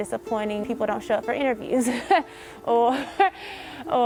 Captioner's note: laughing